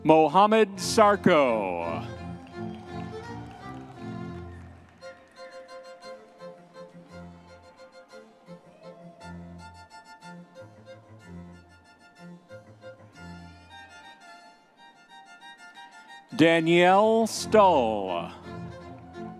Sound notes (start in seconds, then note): 1.0 audience members cheering; 6.7 classical orchestral music continues; 18.7 audience members cheering